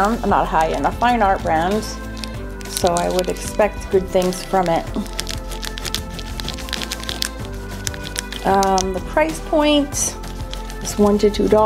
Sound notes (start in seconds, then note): 5.3 eraser rubbing